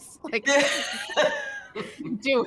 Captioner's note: chuckles